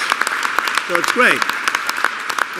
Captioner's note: applause